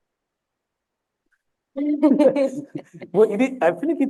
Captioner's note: laughter